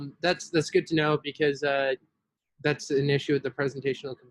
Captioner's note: none